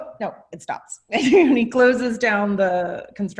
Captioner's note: laughs